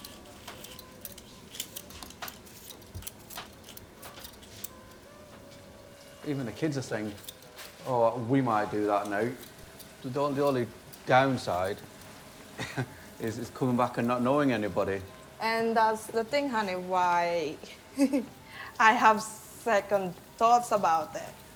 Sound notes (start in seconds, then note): 0.0 tool scraping